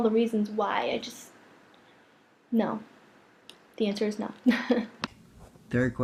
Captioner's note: laughs